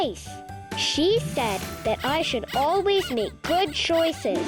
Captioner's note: bunny squeaking